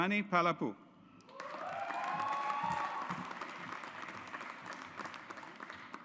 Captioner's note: audience applauds